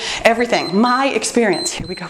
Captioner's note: timer beeps